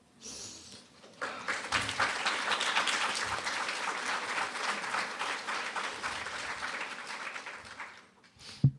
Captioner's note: applause